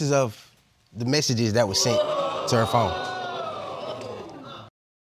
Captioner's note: audience gasping